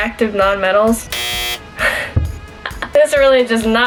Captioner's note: buzzer